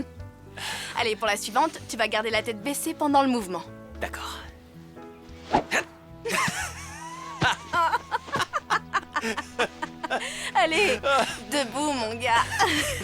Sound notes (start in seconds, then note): 6.2 laughing